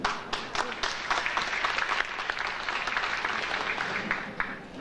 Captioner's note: audience applauding